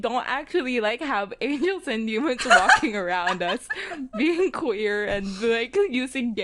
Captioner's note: laughing